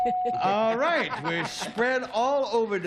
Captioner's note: ding